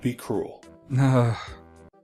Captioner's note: groans